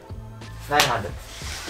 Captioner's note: clapping